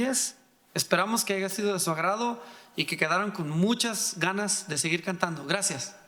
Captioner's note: speaking in foreign language